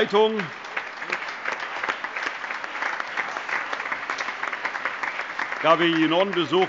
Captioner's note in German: Allgemeiner Beifall